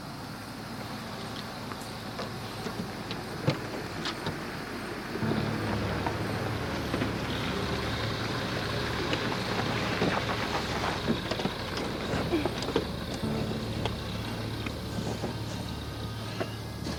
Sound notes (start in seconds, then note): 1.0 insects chirping; 3.5 car engine revving; 6.9 suspenseful music